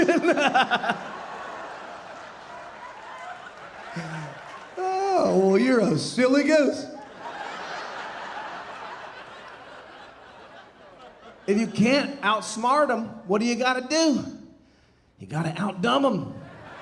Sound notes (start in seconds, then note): 0.0 laughing; 0.0 audience laughing; 4.4 audience applauding; 6.2 audience laughing